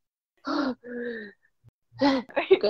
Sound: breathing

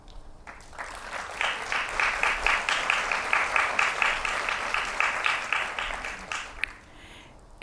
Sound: applause

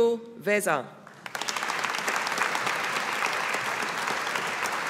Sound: audience applauding

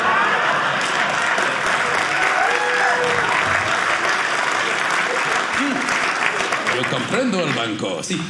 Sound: audience laughing; audience cheering

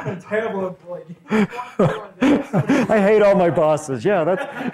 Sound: laughs

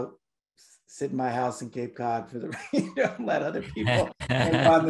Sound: laughs

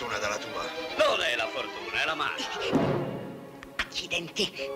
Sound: laughing

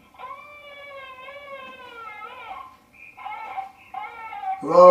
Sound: baby crying

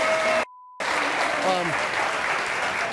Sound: beep; audience applauding

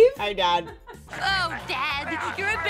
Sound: staff laughing

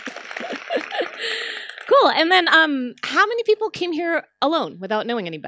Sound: applause

